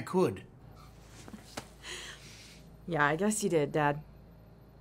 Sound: chuckles

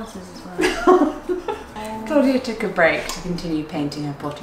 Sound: chuckling

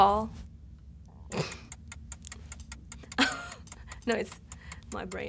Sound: laughs

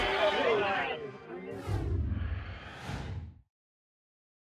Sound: whoosh

